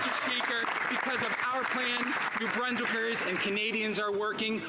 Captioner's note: some Applause